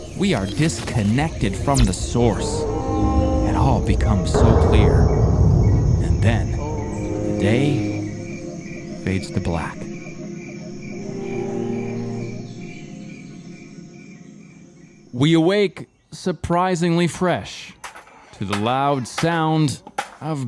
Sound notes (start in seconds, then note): 11.4 cricket chirping